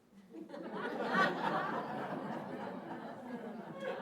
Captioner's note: audience laughing